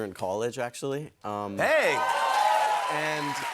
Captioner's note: cheers and applause